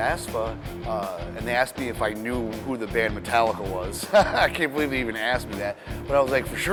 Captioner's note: laughs